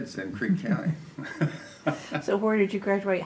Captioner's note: laughs